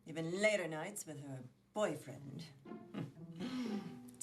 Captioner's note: scoffs